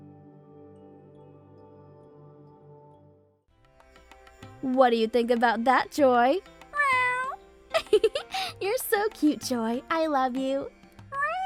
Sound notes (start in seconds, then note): 0.3 calm music; 6.7 Joy meows; 7.7 giggles